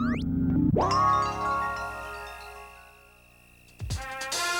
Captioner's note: chimes clinking; upbeat music